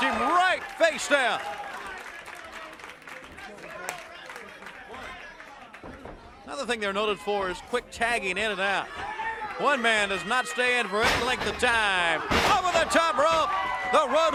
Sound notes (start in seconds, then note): 6.7 crowd cheering; 8.3 crowd chatter